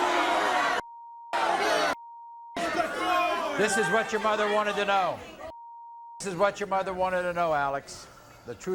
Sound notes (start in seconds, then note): 5.6 beeps